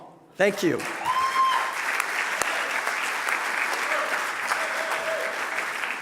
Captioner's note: cheering and applause